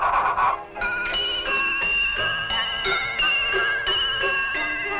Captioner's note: goat grunting; bell chiming